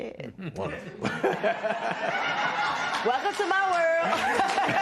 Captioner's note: laughter